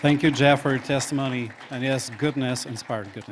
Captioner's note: applause